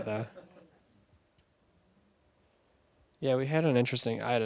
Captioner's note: audience laughing